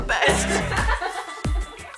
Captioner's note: all laugh